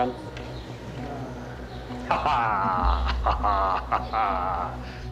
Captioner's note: laughs